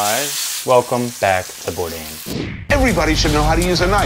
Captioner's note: chops sizzling; air whooshing